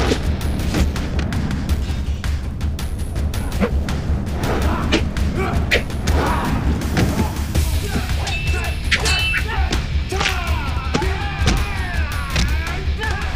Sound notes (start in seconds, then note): 6.1 thudding; 6.9 metal clinking; 10.1 bones creaking